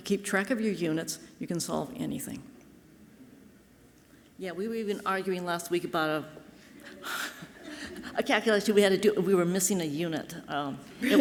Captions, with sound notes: you keep track of your units, you can solve anything. - Yeah, we were even arguing last week about (chuckles) a calculation we had to do. We were missing a unit.